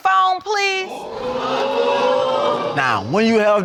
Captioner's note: audience exclaiming